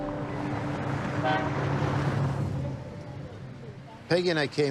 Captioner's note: horn honks